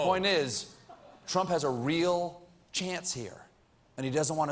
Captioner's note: audience reacts